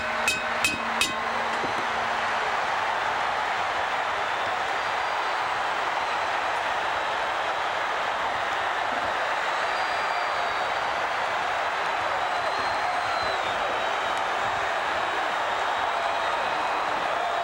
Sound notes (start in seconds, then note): 0.0 bell ringing; 6.9 crowd cheering